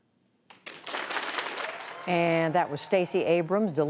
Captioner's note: cheering and applause